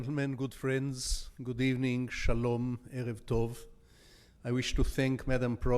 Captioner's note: speaking in foreign language